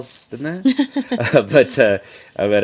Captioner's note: laugh